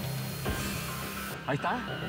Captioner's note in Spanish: sonido de las turbinas